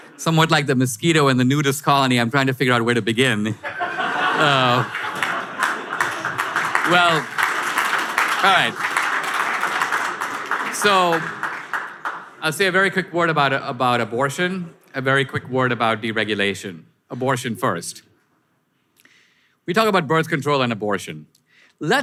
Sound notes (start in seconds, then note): 3.6 audience laughter; 7.1 audience applause